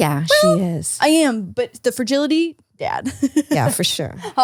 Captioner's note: laughs